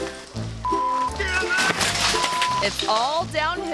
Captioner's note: beep